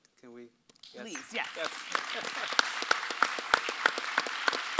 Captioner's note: audience applauds